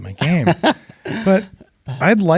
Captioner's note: laughs